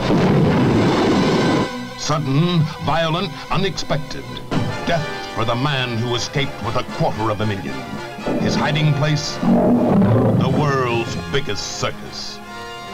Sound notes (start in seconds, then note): 0.0 explosion booming; 9.7 lion roaring